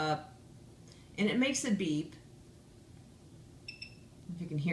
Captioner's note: device beeps